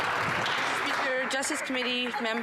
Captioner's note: some Applause